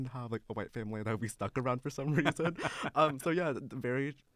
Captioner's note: laughter